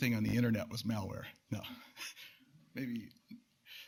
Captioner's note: laughs